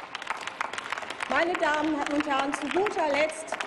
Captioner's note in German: Applaus